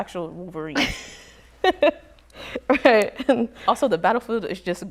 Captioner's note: chuckles